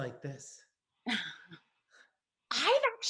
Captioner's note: laughs